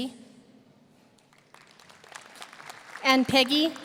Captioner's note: audience applauding